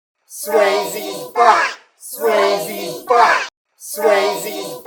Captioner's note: chorus of Voices Chanting